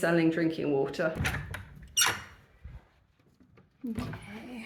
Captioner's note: door unlocks